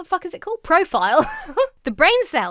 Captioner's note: laughs